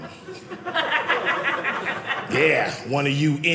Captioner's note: audience laughing